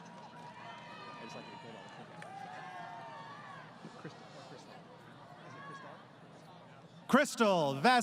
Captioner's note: crowd Cheering